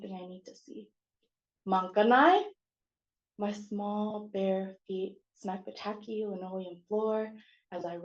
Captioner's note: non-english